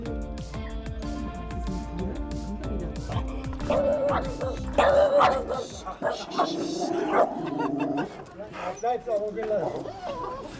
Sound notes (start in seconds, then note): 5.1 the dogs bark and growl